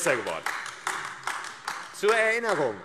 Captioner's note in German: Beifall AfD